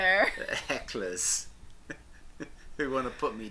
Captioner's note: laughs